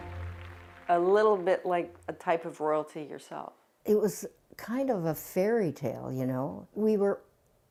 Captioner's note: applause